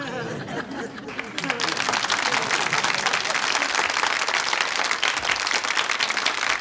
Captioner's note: crowd laughing and applauding